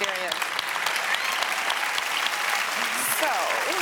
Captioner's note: audience cheers and applauds